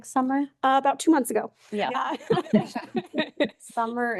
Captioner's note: laughs